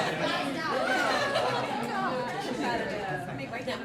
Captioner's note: chattering